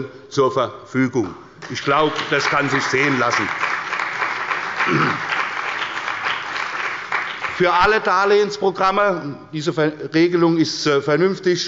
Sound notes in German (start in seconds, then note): 3.4 Beifall bei der CDU und dem BÜNDNIS 90/DIE GRÜNEN